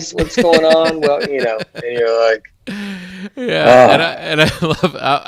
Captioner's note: exasperated sigh